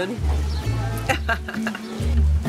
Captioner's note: laughs